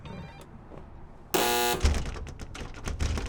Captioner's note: buzzer ring; door buzz